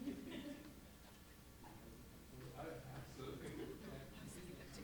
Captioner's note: people chattering